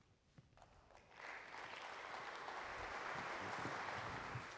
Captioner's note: audience applauding